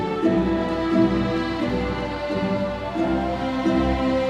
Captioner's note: audience cheering